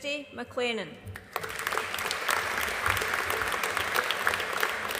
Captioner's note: audience applauding